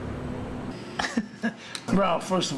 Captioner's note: laughing